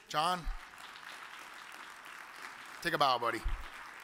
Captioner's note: audience applauds